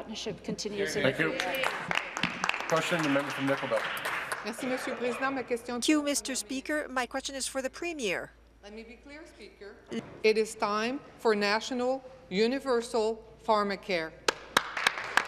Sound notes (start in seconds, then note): 5.5 applause; 7.3 speaking in French